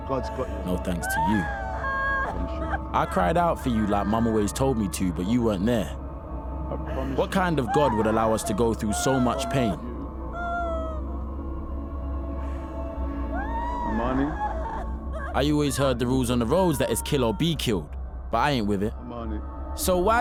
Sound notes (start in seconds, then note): 13.1 crying intensifies